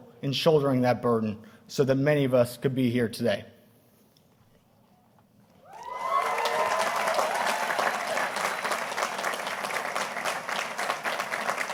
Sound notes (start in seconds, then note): 5.6 audience applauding